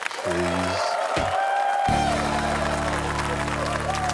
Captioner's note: cheering, applause; sighs; typewriter clacks